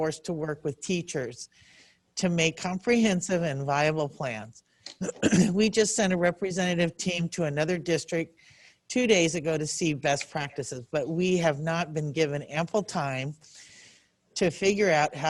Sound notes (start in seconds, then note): 4.9 clears throat